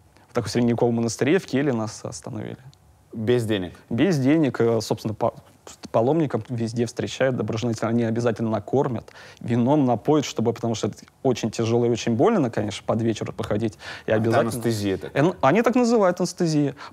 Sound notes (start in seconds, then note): none